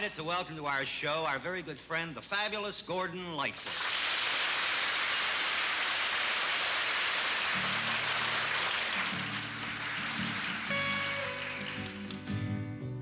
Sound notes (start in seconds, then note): 7.3 applause